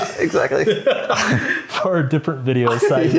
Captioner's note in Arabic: يضحك